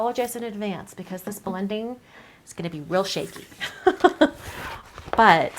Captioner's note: laughs